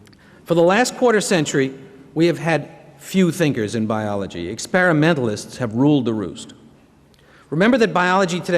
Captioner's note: none